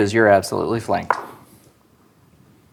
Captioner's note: dice rolling